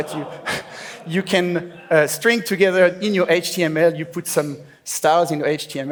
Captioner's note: laughs